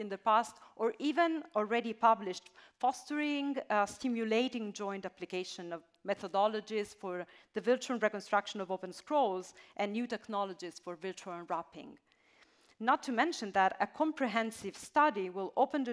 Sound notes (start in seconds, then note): none